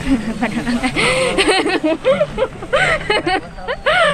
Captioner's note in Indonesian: Tertawa